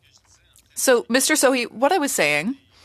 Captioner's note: speaking French